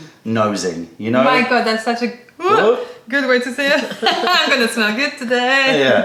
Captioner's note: laughter